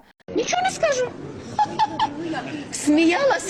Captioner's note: laughing